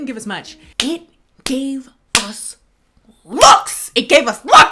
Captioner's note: smacking hands